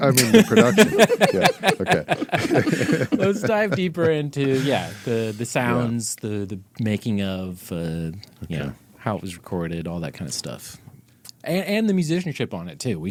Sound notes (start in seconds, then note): 0.1 laughing